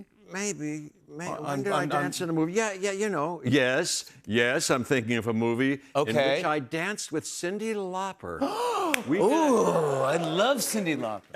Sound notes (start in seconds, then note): none